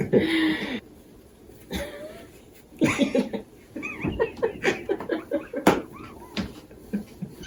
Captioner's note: laughters